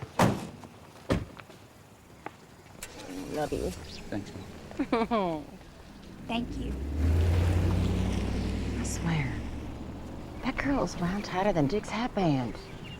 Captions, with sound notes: Love you. - Thanks, Mom. Aw. Thank you. [ENGINE HUMMING] I swear, that girl is wound tighter than Dick's hatband.